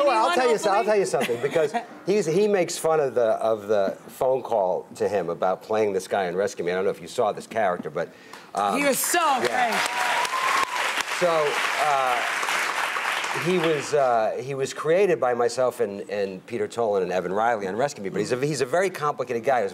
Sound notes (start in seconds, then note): 9.4 audience cheering